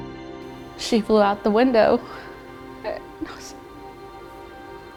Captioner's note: crying